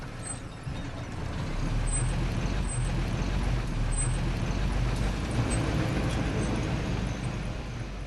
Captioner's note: car engine sound